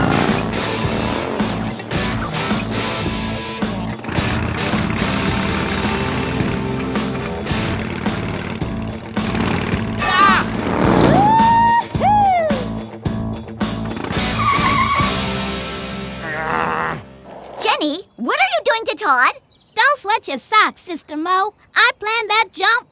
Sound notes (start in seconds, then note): 3.2 engine sputters and revs; 6.5 engine roars loudly; 13.4 tires screech to a halt; 16.1 groans